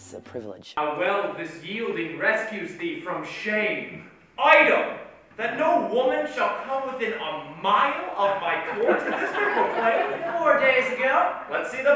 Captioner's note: laughter